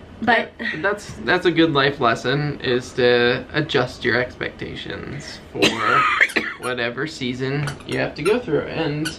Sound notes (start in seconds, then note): 5.5 coughing